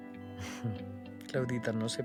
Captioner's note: chuckling